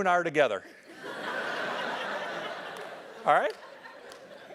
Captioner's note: laugh